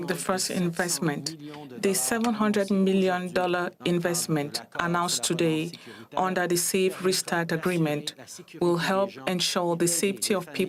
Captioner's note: speaking French